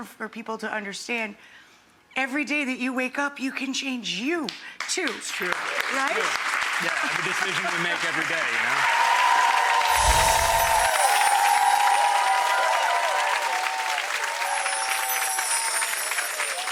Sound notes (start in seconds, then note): 4.6 audience applause; 9.8 bells chiming